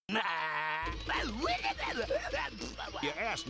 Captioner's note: grunting